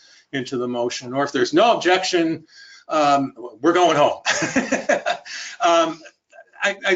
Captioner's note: laughs